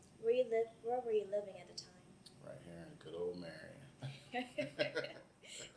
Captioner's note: both laugh